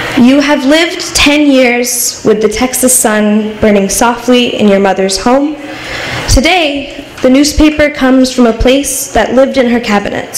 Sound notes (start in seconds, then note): none